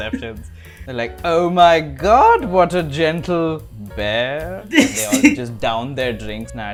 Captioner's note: laughter